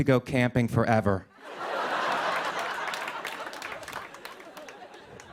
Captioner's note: laughter